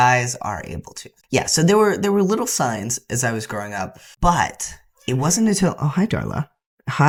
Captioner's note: meow